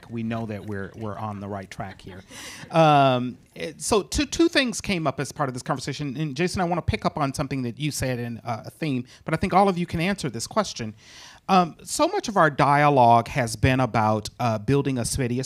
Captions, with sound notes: we know that we're on the right track here. (audience laughing) So two things came up as part of this conversation. And Jason I wanna pick up on something that you said and a theme, but I think all of you can answer this question. So much of our dialogue has been about building a city,